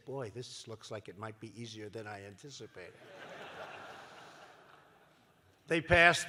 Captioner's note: laughter